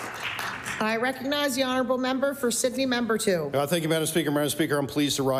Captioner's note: applause